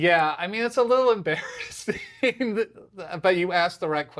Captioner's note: laughs